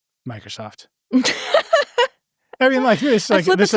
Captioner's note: everyone laughs